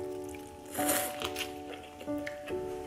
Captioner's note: slurp